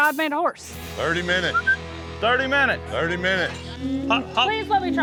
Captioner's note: whistles